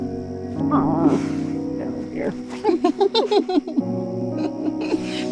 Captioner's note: girls giggling